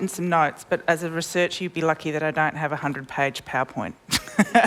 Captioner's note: laughs